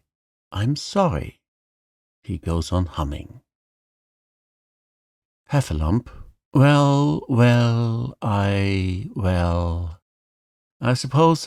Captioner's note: he goes on humming